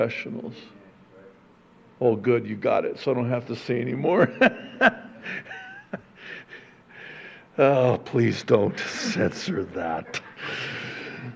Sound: chuckles

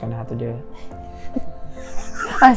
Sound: all chuckle

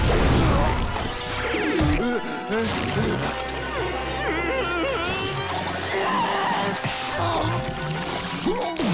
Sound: groaning; groaning

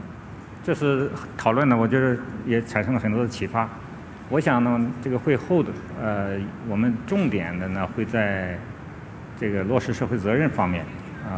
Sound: speaking in Chinese

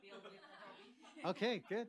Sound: laughter

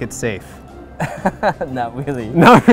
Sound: laughs

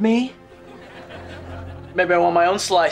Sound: laughing

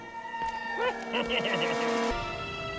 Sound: evil laugh

